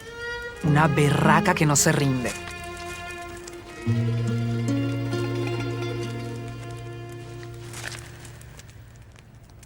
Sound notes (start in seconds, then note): 6.4 fire crackling